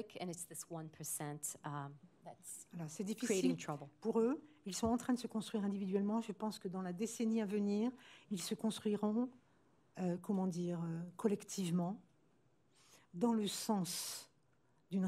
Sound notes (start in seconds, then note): 4.3 speaking french